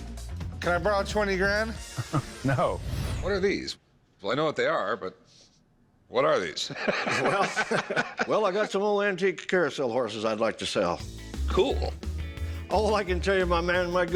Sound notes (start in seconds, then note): 1.9 chuckles; 6.6 laughs